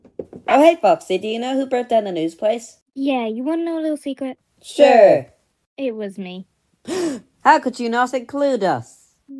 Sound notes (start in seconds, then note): 6.8 gasps